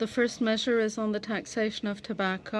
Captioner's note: speaking French